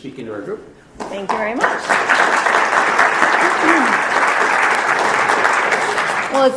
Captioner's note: audience applauding